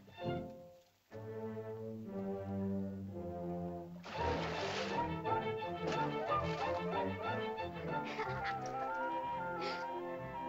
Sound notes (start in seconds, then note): 1.1 whimsical music; 3.9 intense whimsical music; 4.0 water splashes; 7.7 children laugh; 7.7 soft music